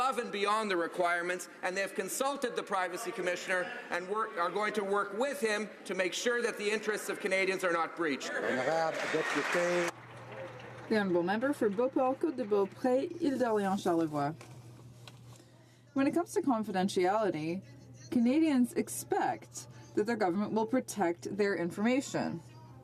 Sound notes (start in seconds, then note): 13.0 some Applause